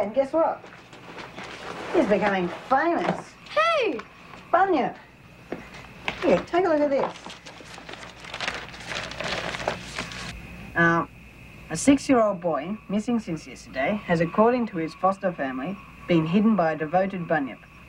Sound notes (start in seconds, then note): 8.4 newspaper rustling